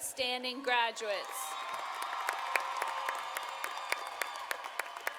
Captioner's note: audience applauding